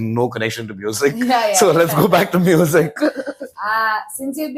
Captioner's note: laughs